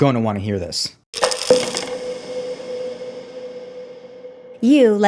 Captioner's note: pills rattling